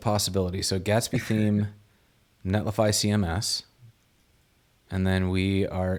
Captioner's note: chuckles